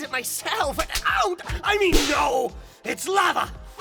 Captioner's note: stammering